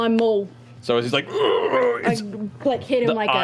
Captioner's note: groans